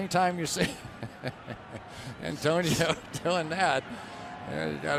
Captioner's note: laughs